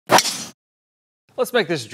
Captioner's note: golf club thwacking